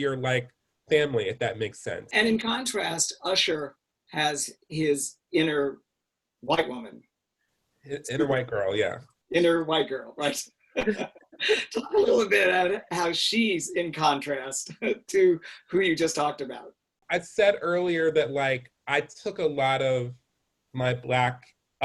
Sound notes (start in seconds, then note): 10.8 laughs